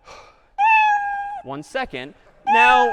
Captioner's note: cat meowing slowed down